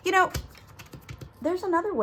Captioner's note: tapping